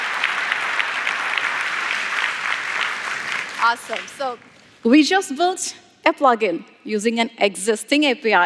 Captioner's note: applause